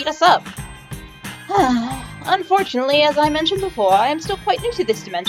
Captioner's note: sigh